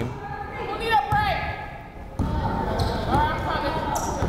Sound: fan shouting

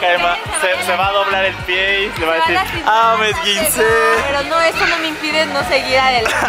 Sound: imitating Karen

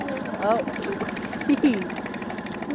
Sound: winch motor running; reel cranking

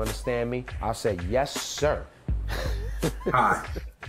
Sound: laughs

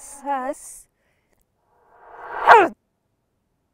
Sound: animal like grunt

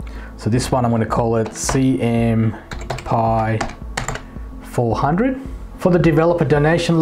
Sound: keyboard typing sound

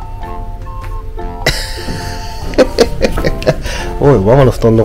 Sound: laughs

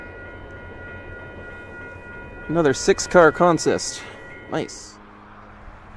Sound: bell stops with video cut

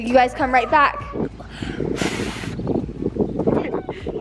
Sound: blowing

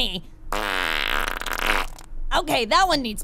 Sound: funny videos Mommy Bunny passes gas loudly

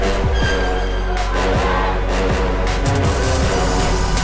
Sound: crowd shouting

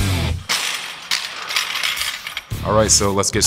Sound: intense rock music; weight clatters

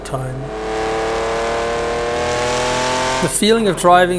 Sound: engine revs

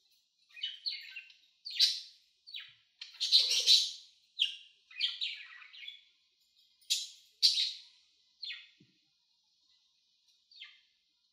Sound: birds chirping

